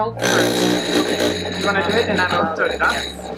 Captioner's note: machine whirls